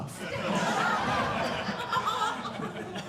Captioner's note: audience laughing